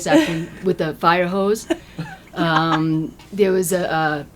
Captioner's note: laughter